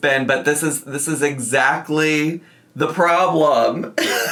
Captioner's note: laughs